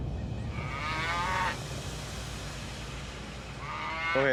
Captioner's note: steer moos